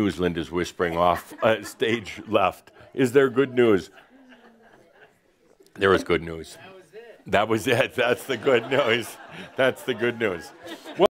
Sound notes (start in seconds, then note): 0.9 some laughter; 8.3 more laughter